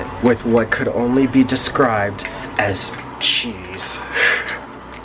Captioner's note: chuckles